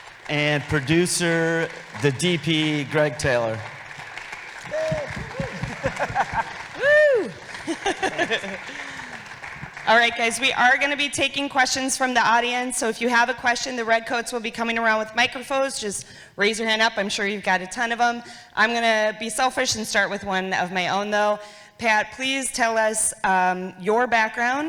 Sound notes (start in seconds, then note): 4.4 audience applauding